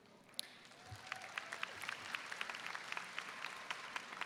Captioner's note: audience applauds